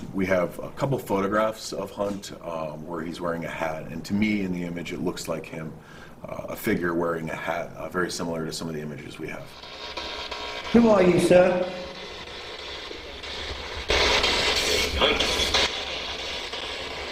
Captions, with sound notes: We have a couple photographs of Hunt where he's wearing a hat, and to me in the image, it looks like him, a figure wearing a hat, very similar to some of the images we have. - Who are you, sir? (ghost box buzzing)